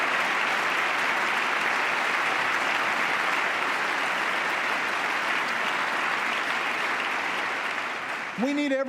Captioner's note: applause